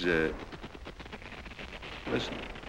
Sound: static noise

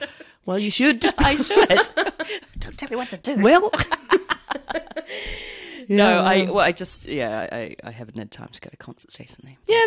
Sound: laughs

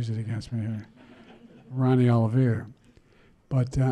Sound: laughter

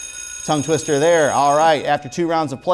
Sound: buzzing

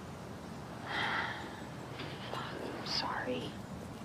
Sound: cassie sighs

